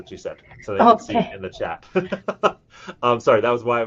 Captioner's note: laughs